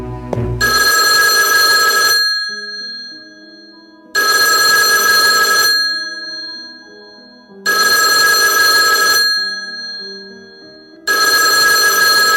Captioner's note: phone rings